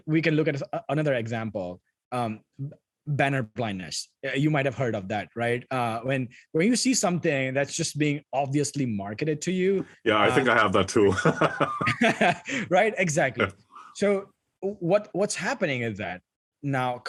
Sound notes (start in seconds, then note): 11.1 laugh